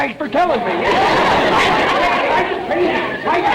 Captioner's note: audience laughter